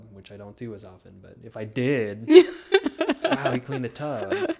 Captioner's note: laughing